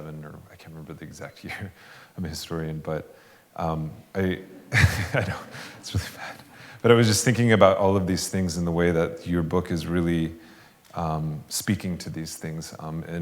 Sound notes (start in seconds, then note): 4.6 laughs